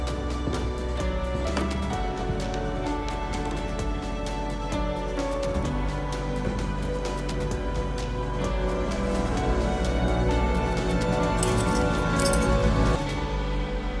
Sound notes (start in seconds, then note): 10.8 Nick unbuckles his belt offscreen